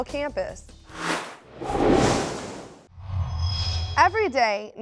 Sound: sound Effects

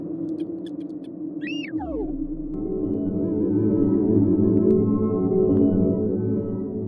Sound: excited rover beeping

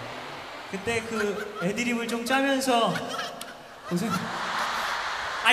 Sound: laughing behind ㅋㅋㅋ

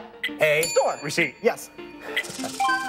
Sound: bell dings

